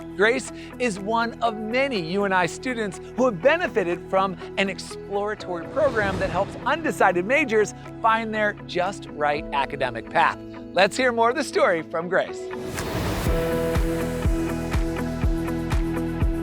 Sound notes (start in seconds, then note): 12.6 graphics whooshing; 13.8 bright music